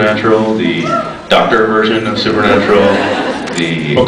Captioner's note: scattered cheers, laughs; scattered laughs